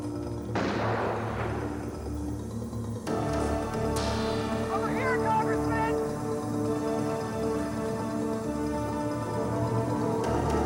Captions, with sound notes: (gun firing) - Over here, Congressman! (dramatic synth music)